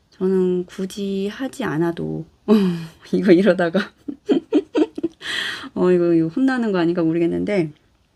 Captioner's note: laugh